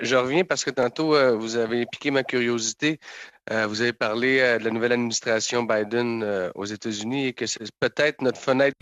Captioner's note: speaking French